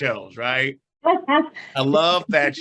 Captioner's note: laughs